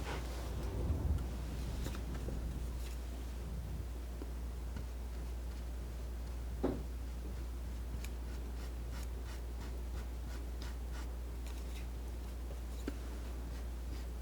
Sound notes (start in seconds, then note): 0.9 scratching